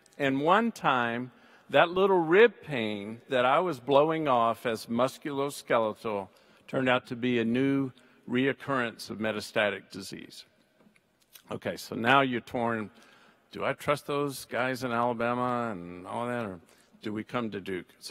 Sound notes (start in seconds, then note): none